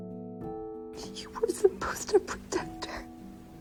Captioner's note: voiceover